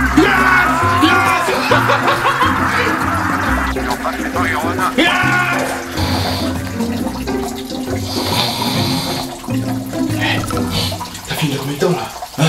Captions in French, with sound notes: (Cris de joie) (Ronflements) (Ronflements) - T'as fini dans combien de temps là ? Hein ?